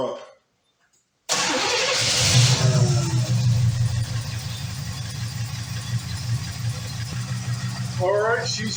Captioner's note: engine starts & idles